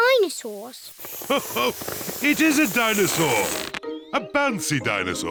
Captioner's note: laughs